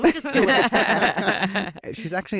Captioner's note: laughter